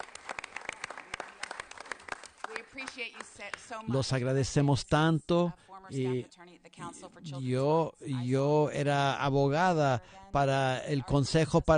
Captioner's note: applause